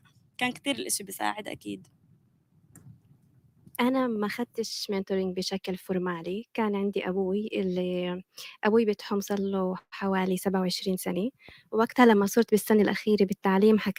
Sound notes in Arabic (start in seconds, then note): 4.8 لغة أجنبية